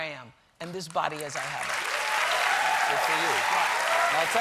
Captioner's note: applause